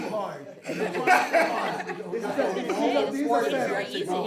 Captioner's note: people chattering